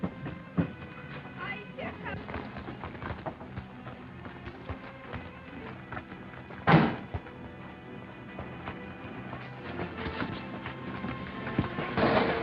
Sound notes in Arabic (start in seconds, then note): 6.7 صوت طرقات باب السيارة